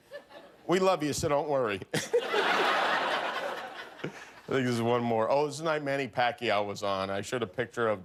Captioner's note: laughter